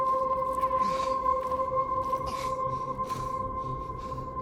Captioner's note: Larry panting